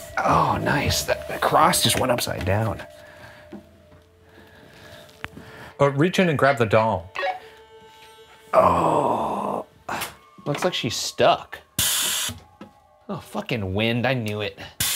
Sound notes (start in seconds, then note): 8.6 grunts